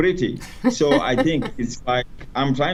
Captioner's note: laughs